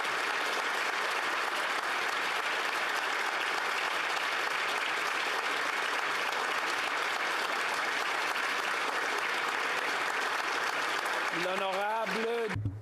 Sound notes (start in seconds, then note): 0.0 applause